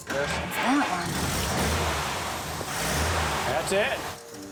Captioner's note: engine starts